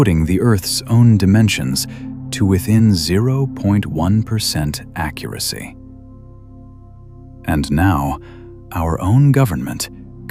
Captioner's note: breath